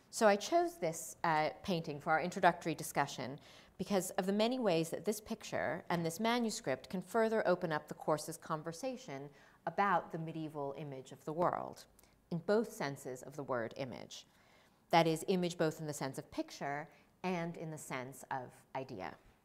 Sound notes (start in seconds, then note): none